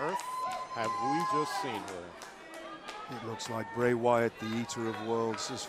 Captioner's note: crowd cheering